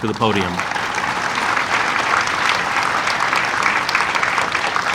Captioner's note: audience applauding